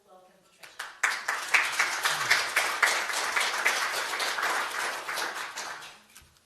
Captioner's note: applause